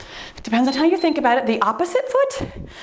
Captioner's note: timer beeps